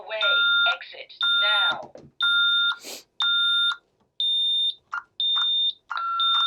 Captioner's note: beeping